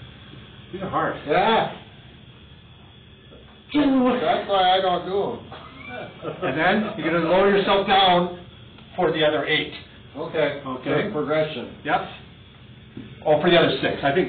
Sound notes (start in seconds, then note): 5.8 laughing